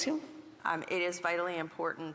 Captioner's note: speaking indigenous language